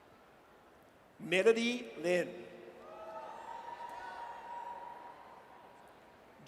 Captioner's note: audience cheers